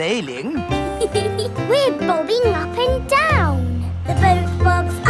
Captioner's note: giggles